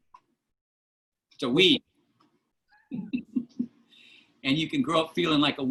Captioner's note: laughter